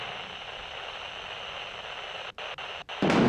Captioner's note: static buzzing